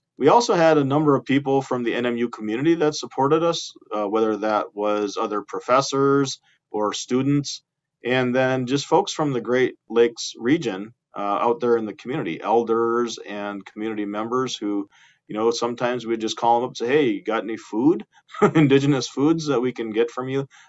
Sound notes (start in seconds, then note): 18.3 laughing